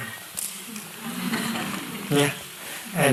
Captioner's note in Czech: smích